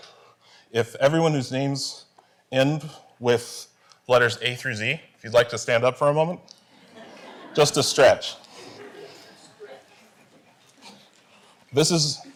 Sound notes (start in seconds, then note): 8.5 laughter